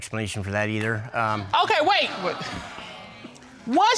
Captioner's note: audience exclaiming